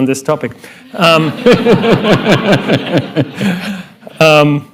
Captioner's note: laughter